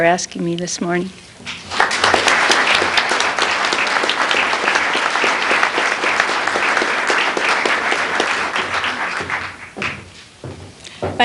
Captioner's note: applause